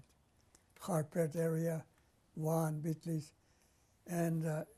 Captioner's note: armenian